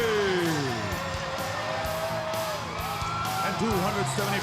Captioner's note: crowd cheering; upbeat rock music